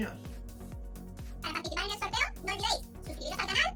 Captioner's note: cartoon voice